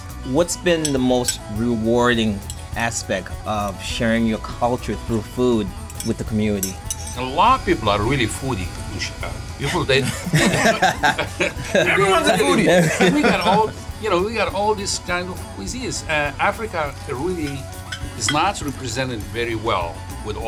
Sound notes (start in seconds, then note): 10.0 all laughing